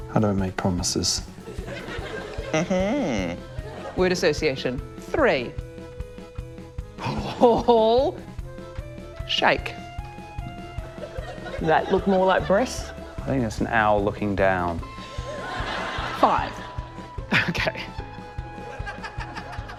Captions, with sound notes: - I don't make promises. - Mm-hmmm. - Word association ― three. Paul? Shake. - That look more like breasts? - I think it's an owl looking down. (LAUGHTER) - Five. OK.